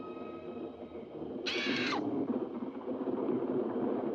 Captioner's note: bird squawks